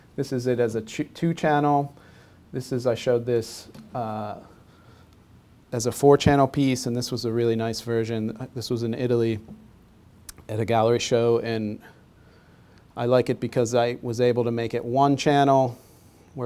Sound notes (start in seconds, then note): none